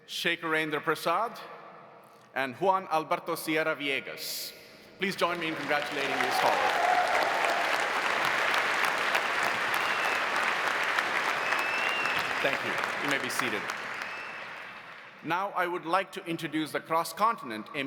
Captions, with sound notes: Shekharendra Prasad and Juan Alberto Sierra Villegas. Please join me in congratulating these scholars. (audience cheering) (audience applauding) Thank you, you may be seated. Now I would like to introduce the Cross Continent